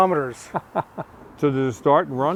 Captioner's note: laughing